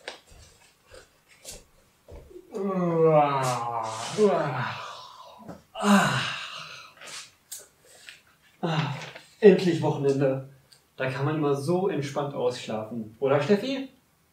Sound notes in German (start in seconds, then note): 2.4 gähnender